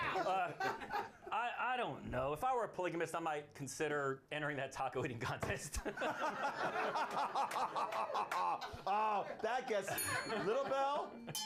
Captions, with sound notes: - ARE Y'ALL DONE ALREADY? I DON'T KNOW. IF I WERE A POLYGAMIST, I MIGHT CONSIDER ENTERING THAT TACO EATING CONTEST. [Laughter] [BELL RINGS] - AH, THAT GETS LITTLE BELL,